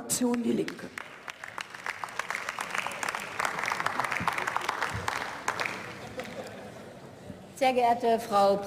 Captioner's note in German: Beifall